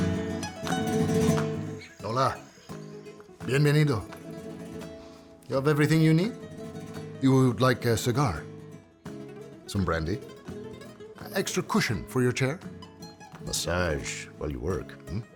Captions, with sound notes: - Hola. (Ricardo speaking Spanish) You have everything you need? You would like a cigar? Some brandy? An extra cushion for your chair? Massage while you work?